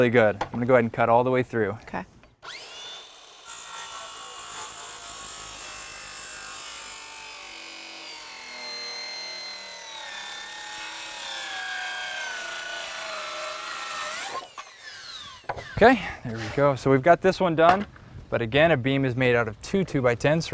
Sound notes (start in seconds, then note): 5.7 saw whining, no additional audio